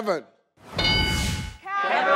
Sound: metallic chime

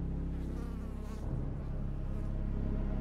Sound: fly buzzing

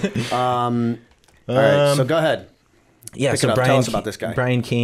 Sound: laughter

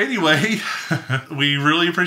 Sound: laughing

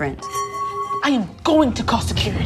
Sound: singing bowl hums

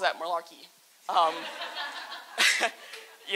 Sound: laughter

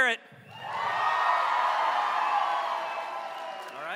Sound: applause

